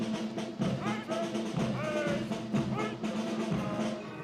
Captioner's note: Commandants de troupe crient des ordres